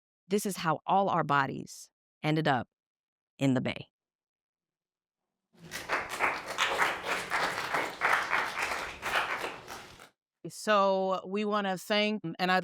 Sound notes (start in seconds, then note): 5.6 participants applauding